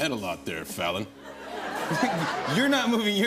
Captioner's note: laughter